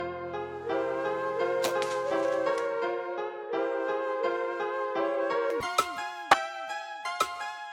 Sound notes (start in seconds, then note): 0.1 expectant music; 1.8 arrow whooshes